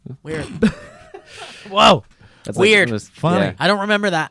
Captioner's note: laughs